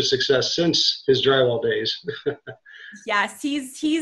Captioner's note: chuckles